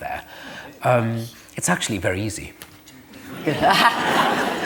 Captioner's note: laughter